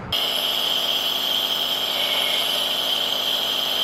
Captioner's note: sound of machine